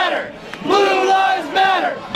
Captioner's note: chanting